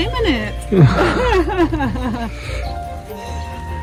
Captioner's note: laugh